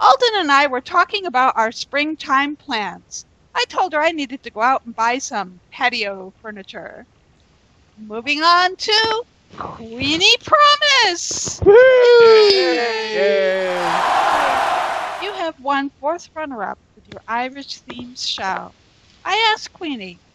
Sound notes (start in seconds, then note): 9.6 cheers and Applause